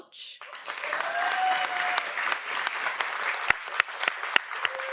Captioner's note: audience applauds